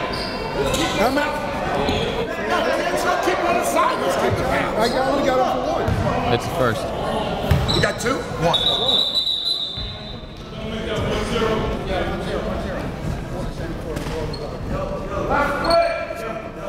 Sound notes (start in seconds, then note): 11.2 whistle blows; 12.5 gymnasium bustles